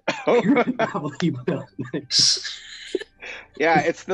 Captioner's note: laughing